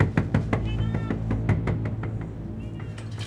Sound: knocking at door

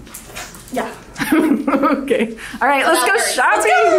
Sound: laughing

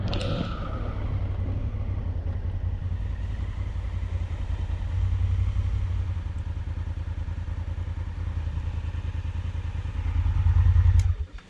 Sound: bike and the sound of rain

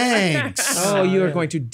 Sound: laughs

